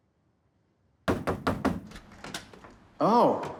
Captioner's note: knocking